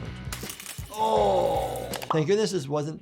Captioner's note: country music; branch snaps